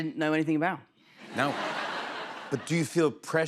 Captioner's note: laughter